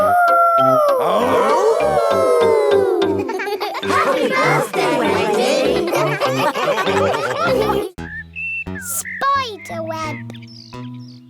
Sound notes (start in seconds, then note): 0.6 all howling; 0.8 howling; 6.5 all laughing